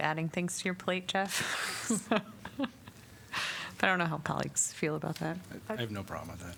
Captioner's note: laughter